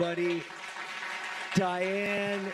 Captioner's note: audience clapping